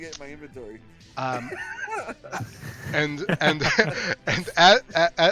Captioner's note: laughter